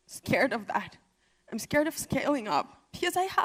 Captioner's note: speaking emotionally